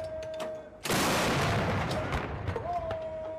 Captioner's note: gunshots